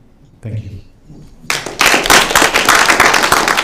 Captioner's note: applause